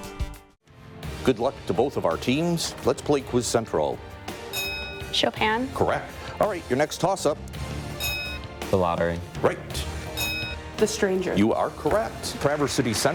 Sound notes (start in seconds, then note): 4.5 ding; 8.0 ding; 10.1 ding